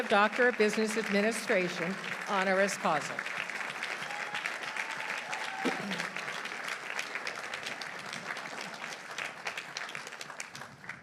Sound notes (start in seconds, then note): 3.7 audience cheering; 4.4 audience applauding